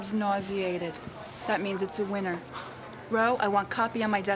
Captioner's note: chuckles